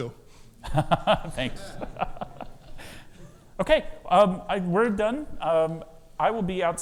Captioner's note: laughs